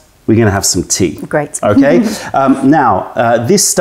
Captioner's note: laughter